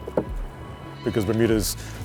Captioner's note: pole settling into place